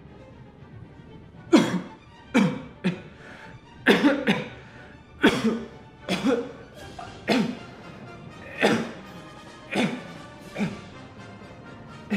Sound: cough

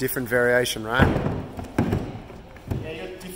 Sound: boxes colliding

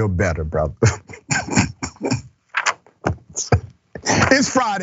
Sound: laugh

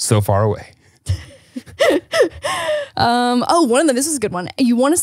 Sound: laugh

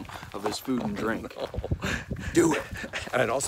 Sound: chuckling

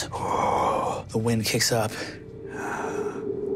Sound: mimics wind howling dryly

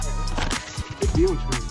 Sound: rustling sound

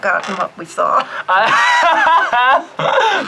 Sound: laughs

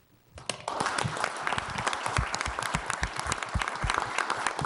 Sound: audience applauding

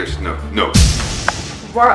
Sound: poof!

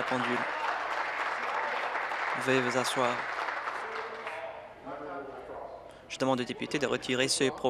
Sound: applause

